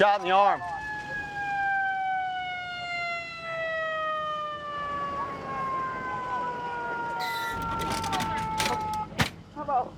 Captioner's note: siren